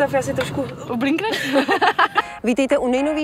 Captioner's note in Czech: Smích